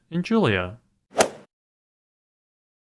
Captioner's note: swoosh